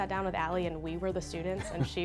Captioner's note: laughs